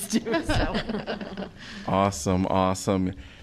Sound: laughter

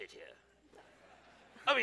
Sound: audience laughs

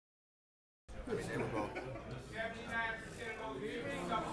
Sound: group chatters

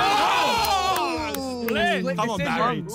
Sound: all exclaiming

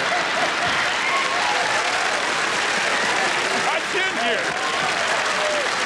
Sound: laughter and applause

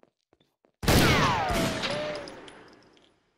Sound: gunshots

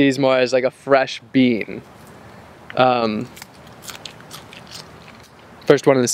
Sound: crunching

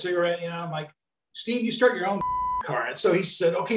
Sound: beep

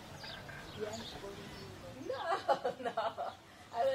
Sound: laughs

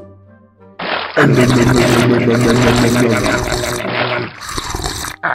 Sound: om nom nom

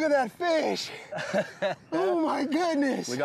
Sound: laughing

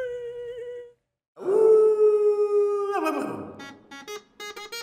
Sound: person softly howling like dog; whimsical folk music

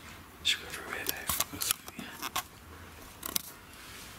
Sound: whispering

